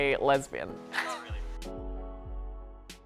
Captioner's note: laughing